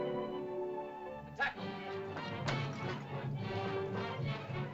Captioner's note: sentimental music; suspenseful music; Tumak speaks in caveman language; suspenseful music